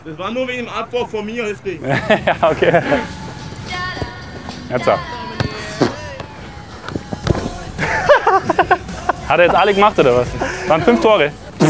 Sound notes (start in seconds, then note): 1.7 lachend